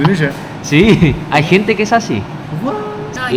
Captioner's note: Spanish; Spanish